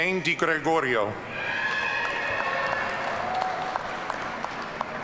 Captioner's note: audience cheering